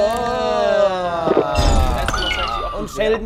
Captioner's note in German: Schlucken, Husten